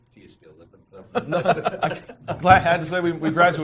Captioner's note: laughing